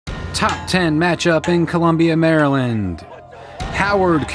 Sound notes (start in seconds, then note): 0.1 dramatic music plays; 0.3 sticks clanging on light pole; 2.3 team cheering